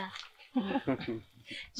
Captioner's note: laughs